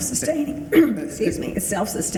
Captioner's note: clears throat